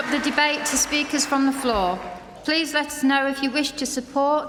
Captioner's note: applause